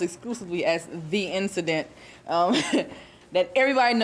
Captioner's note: students chuckling